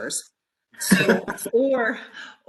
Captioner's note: laughs